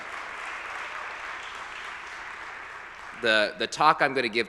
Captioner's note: audience applauding